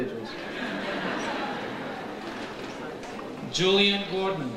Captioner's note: audience laughs